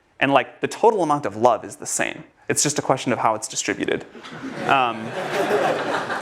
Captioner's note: сміх в аудиторії